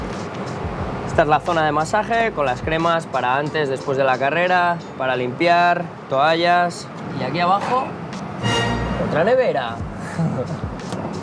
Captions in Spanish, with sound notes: Esta es la zona de masaje con las cremas para antes y después de la carrera, para limpiar, toallas; y aquí abajo otra nevera [ríe].